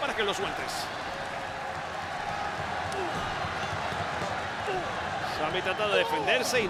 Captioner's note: applause